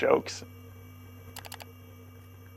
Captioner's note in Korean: 클릭 소리